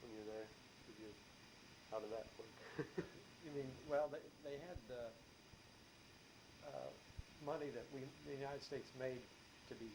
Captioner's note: chuckles